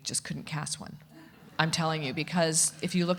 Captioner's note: audience laughing